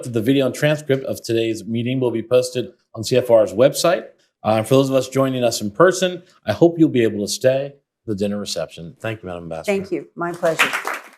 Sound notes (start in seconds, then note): 10.4 applause